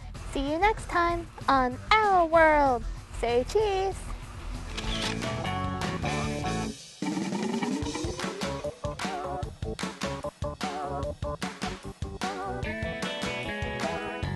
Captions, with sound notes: SEE YOU NEXT TIME ON "OUR WORLD." SAY, "CHEESE." [camera shutter clicks]